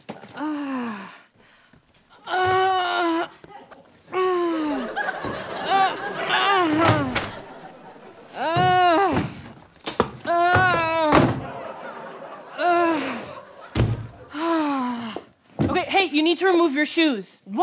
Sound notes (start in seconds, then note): 0.3 obnoxious groaning; 6.6 suitcase clattering; 8.3 groaning